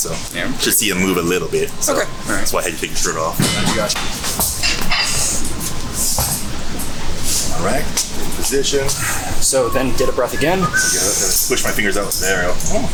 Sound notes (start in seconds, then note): 10.6 inhaling